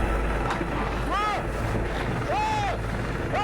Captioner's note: yells